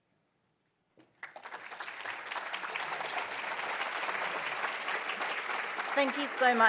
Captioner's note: applause